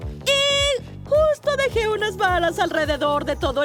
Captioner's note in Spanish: none